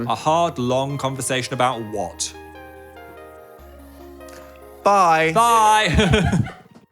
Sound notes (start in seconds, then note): 5.8 group laughing